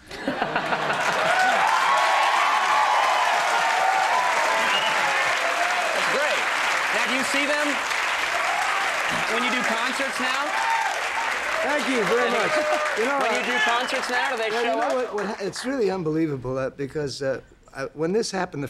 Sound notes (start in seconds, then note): 0.1 audience cheering and applauding; 10.7 audience cheering